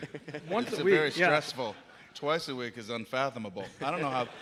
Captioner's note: laughter